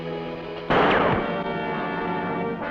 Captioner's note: gunshot